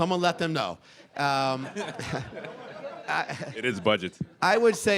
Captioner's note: audience chuckling